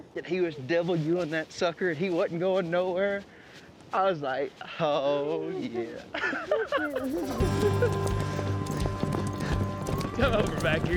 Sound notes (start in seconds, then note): 6.1 laughing; 6.7 hoofbeats